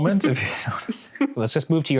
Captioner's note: laughing